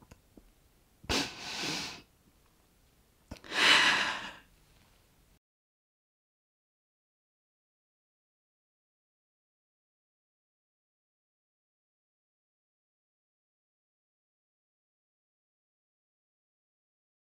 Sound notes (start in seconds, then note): 1.1 sniffs; 3.4 sighs